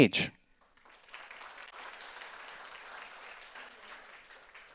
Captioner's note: audience applauds